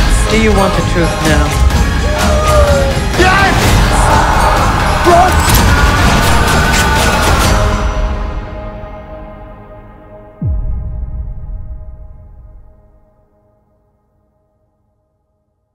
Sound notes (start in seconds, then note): 2.0 beau wailing; 3.9 beau screaming